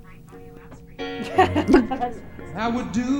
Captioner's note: laughs